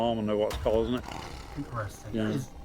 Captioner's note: Bigfoot growling